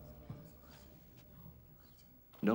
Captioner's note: spectators murmuring